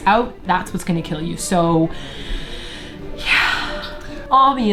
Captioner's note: inhales sharply; nasally